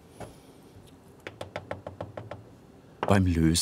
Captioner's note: hammering